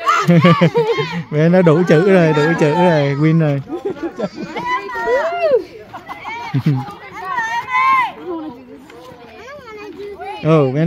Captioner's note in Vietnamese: Tiếng cười